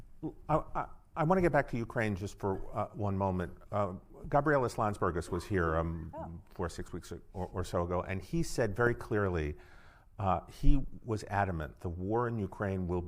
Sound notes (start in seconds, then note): 4.7 speaking foreign language